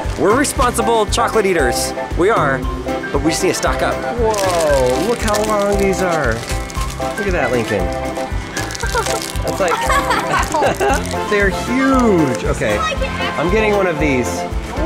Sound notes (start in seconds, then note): 8.6 laughing